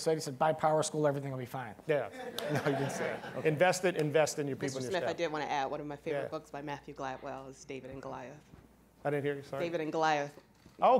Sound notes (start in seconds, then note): 2.1 all laughing